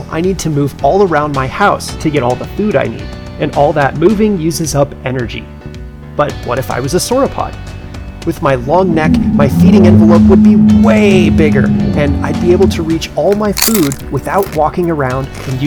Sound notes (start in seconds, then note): 8.4 dinosaur groaning; 13.4 dinosaur chomping